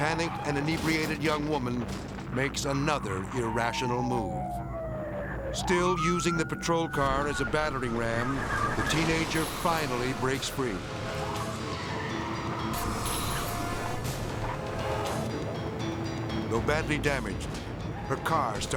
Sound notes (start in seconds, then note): 4.0 sirens blaring; 6.8 car skidding; 11.1 edgy dramatic music